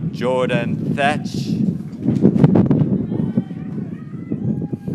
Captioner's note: graduates cheering